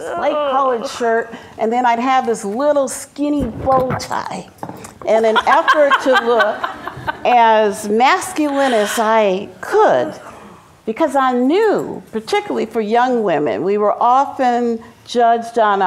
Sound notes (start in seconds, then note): 5.2 laughs